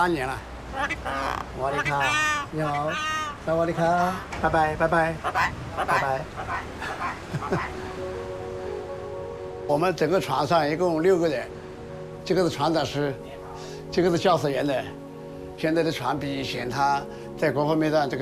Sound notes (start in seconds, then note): 1.4 bird and speaking Chinese dialect; 4.5 in English; 5.2 bird